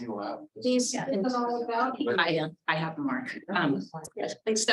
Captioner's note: committee members speaking faintly